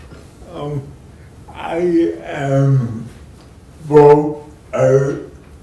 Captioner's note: murmurs